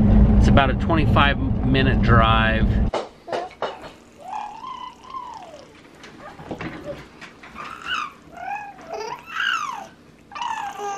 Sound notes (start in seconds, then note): 3.8 gurgling